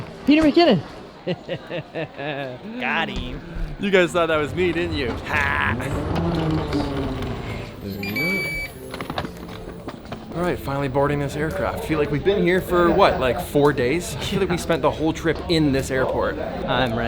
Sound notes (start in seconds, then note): 1.0 laughter; 6.0 suitcase rolls on escalator; 6.4 machine beeps; 9.5 suitcase rolling